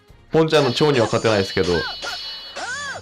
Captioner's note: laughs